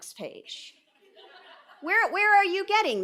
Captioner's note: audience laughing